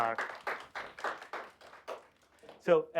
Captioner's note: applause